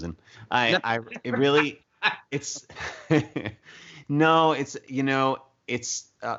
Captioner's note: laughs